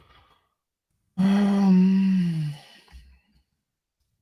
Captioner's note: sighs